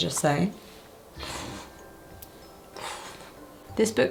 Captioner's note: exhales sharply